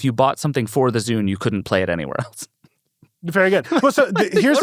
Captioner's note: chuckles